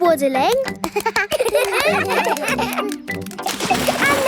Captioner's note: children laugh